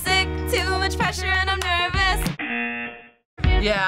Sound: buzzer

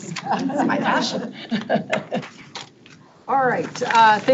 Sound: people chuckle

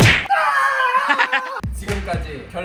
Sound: screaming in pain

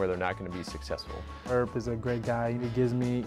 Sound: voiceover

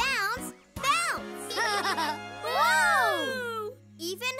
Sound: laughing

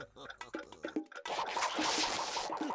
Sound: laughing maliciously; clock ticking

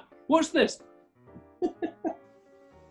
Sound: chuckling

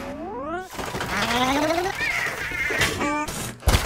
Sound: shuddering; thudding

